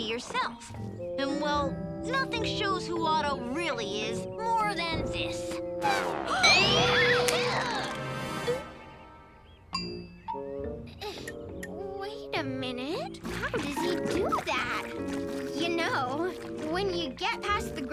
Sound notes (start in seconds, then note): 4.2 sad trumpet; 6.2 Tabitha screaming; 13.2 nose squishing